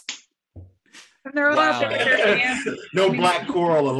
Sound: laughter drowns out speaker

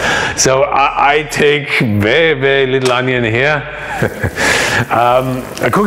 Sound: laughs

